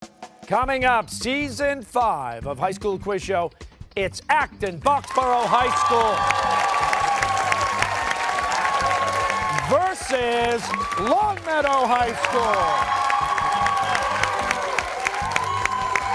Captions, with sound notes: >> Coming up, season five of High School Quiz Show, it's Acton-Boxborough High School... (cheers and applause) versus Longmeadow High School! (cheers and applause)